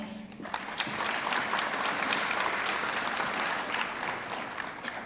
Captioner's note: audience clapping